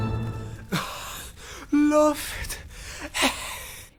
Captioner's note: gasp